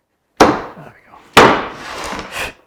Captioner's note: wood clunking